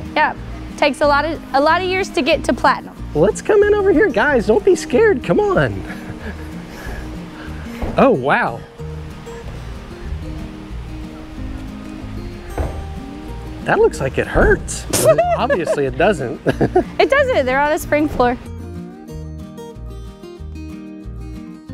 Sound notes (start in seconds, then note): 6.8 feet thump; 9.2 bright music; 12.5 feet thump; 14.8 coach laughs; 18.9 bright music